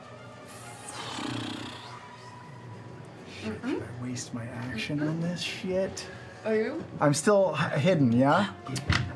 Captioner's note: sighs